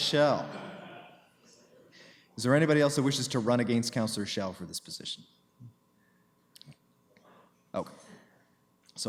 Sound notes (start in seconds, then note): 1.0 laughter